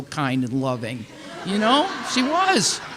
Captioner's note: audience laughing